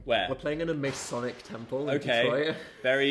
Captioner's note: screen blasting